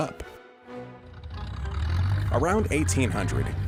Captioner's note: airplane engine roaring